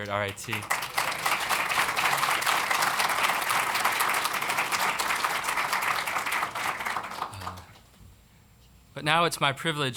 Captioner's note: applause